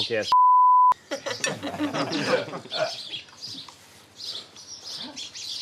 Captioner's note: everyone laughs